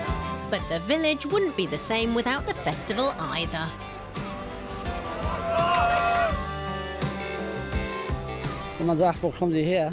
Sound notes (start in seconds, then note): 3.6 applause